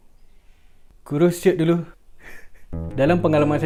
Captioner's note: giggle